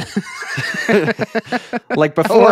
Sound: laughing

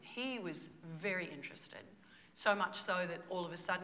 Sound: none

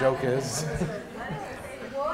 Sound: crowd chattering

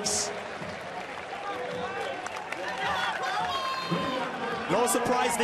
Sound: audience cheering

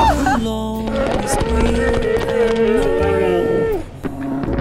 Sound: slow motion paint splattering

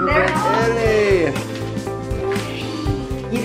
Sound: cheers

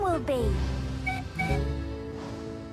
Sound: Rebecca Whistles

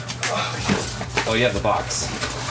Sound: grunts

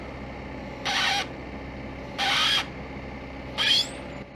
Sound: squeaking

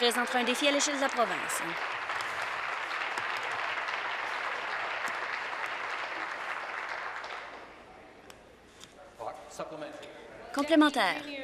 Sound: applause

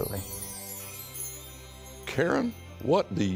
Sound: transition chiming

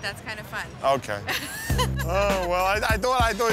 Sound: laughs

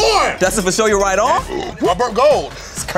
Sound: burps

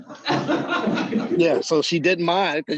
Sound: laughter

